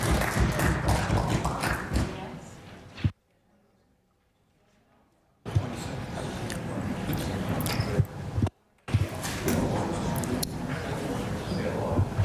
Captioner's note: some Applause